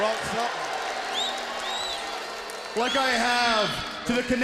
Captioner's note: crowd boos